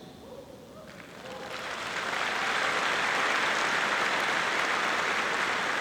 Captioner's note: audience clapping